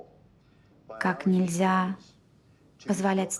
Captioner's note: woman speaking Russian